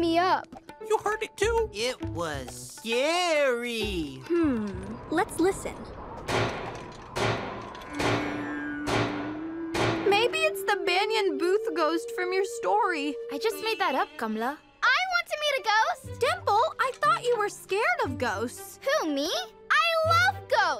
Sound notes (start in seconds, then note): 6.1 loud clacking